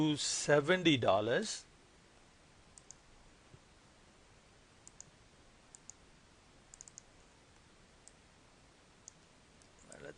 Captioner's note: clicking